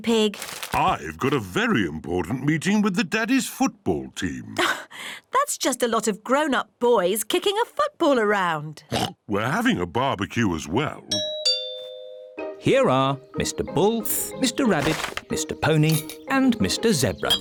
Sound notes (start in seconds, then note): 8.8 oinks; 11.2 doorbell rings